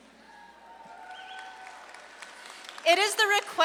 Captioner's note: audience claps and cheers